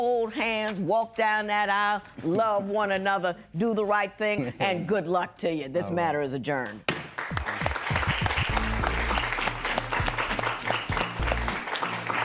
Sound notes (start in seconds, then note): 7.0 applause; 7.4 gavel bangs